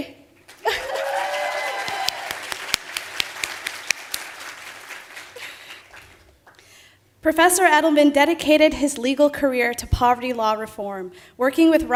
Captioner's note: applause